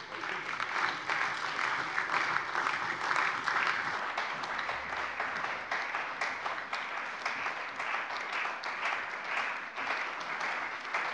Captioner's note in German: Beifall bei der CDU und dem BÜNDNIS 90/DIE GRÜNEN